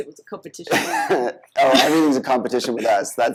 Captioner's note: both laughing